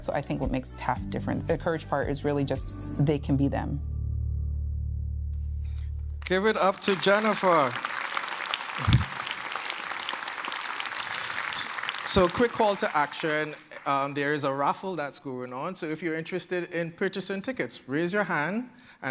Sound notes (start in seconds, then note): 6.1 applause